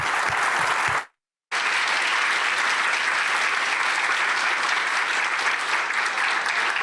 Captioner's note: applause